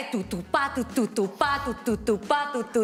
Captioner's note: imitates a drum